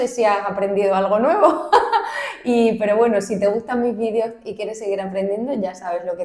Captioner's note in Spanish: risas